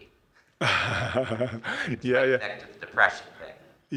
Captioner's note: laughs